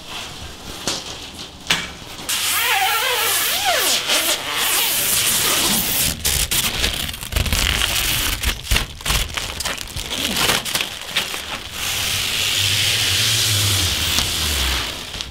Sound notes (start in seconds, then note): 2.5 plastic Pulling Sounds